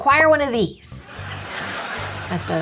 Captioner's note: audience laughing